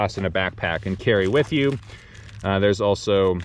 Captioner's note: paper rustling